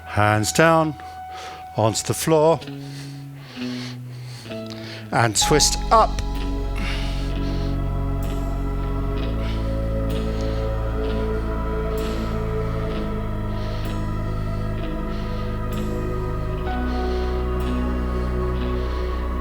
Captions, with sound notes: Hands down onto the floor. And twist up. [breathing]